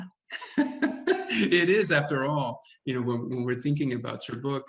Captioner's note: speaks Spanish; laughs